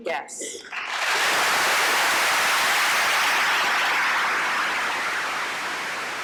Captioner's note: applause